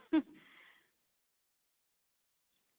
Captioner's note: laughs